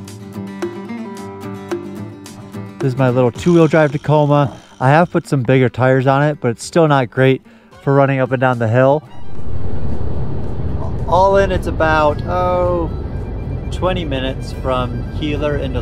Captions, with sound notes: This is my little two-wheel drive Tacoma. I have put some bigger tires on it but it's still not great for running up and down the hill. (vehicle humming) All in, it's about 20 minutes from Keeler into Lone Pine.